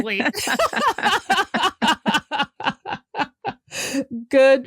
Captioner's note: laughter